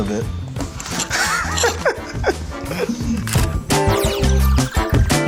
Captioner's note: Shaquill and Shaquem laugh